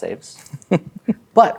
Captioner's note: laughs